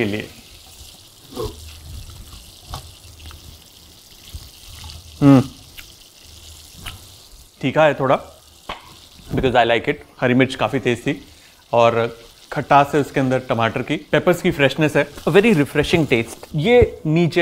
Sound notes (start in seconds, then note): 4.1 yummy noises